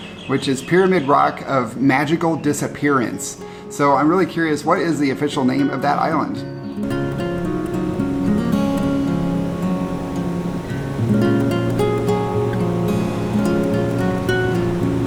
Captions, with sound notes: which is Pyramid Rock of Magical Disappearance. So I'm really curious, what is the official name of that island? (gentle guitar music) (waves crashing)